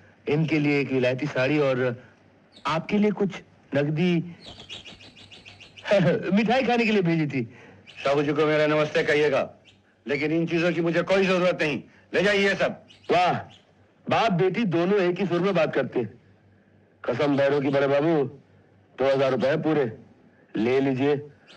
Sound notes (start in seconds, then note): 4.5 birds Chirping